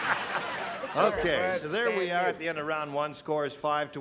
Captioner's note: laughter